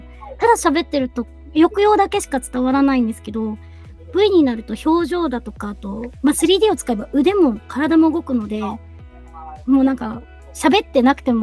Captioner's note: laughs